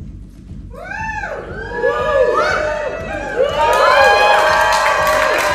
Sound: audience cheering

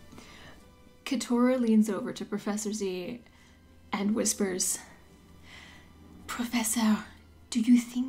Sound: French accent

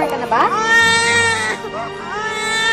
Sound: baby wails

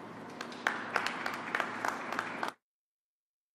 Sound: applause

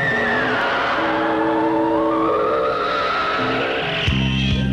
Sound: sound of travelling spacecraft

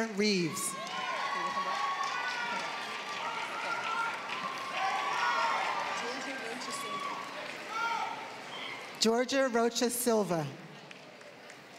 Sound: applause; applause

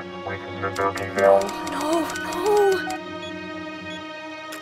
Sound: frantic typing

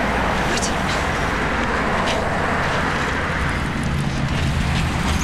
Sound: traffic roaring

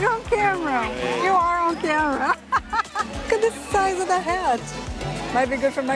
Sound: laughs

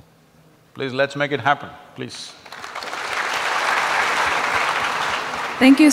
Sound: applause

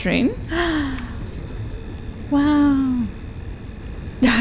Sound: gasps

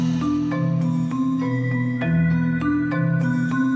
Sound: yelling out loud the lead

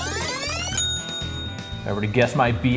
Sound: ding!

